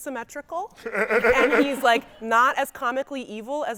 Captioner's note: guy chuckling